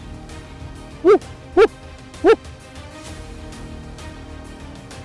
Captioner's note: coyote calling